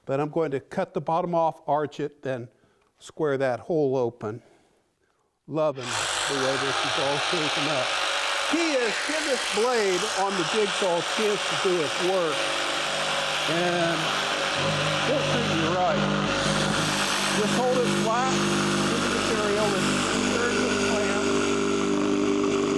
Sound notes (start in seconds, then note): 5.9 saw whirring; 12.6 saw whirring